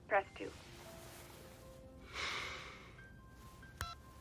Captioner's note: sighing; phone beepiping